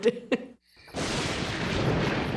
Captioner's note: thunder